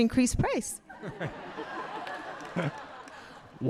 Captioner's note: all laughing